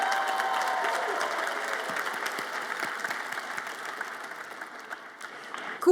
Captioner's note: audience applauds and cheers